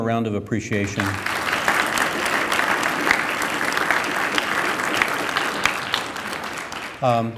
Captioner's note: applause